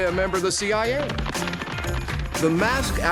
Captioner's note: running steps